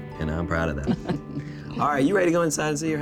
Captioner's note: laughter